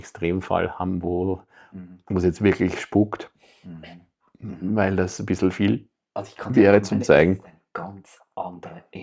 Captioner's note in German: räuspern